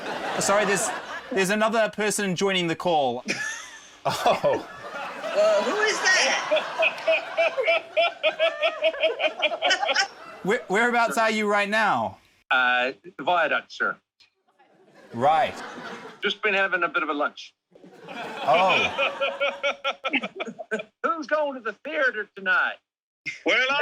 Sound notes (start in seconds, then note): 0.3 laughter; 7.7 guy laughs; 18.2 guy laughs